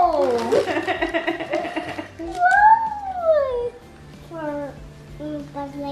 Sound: laughs

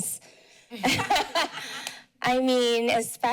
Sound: laughter

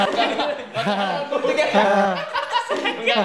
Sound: continued laughters; still laughing

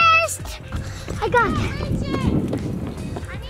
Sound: running feet

